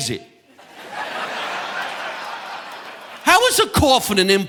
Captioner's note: audience laughing